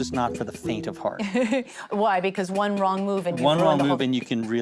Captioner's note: chuckles